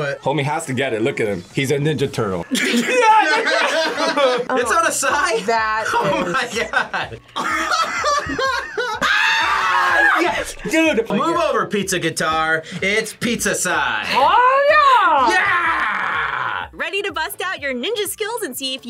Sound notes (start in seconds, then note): 2.5 laughs; 5.6 laughs; 8.9 both scream